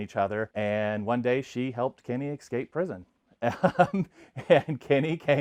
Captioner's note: laughs